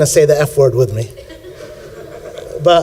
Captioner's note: laughter